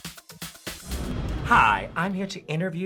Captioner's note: upbeat rhythmic music; air whooshing